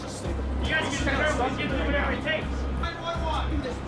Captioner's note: overlapping chatter